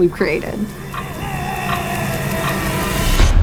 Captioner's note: screaming